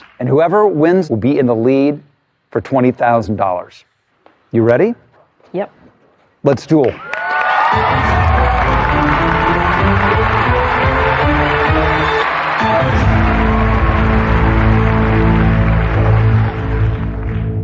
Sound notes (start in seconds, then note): 7.5 cheering and applause; 9.4 dramatic music